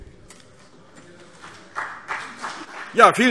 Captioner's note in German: Beifall BÜNDNIS 90/DIE GRÜNEN